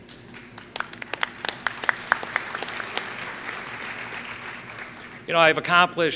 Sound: applause

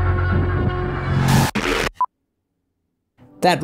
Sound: distorted audio crunching

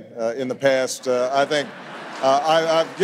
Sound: audience laughs

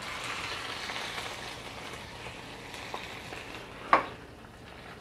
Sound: sizzling

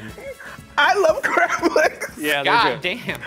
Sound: laughs

